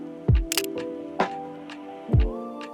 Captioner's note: camera clicks